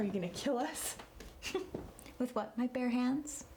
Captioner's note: laughter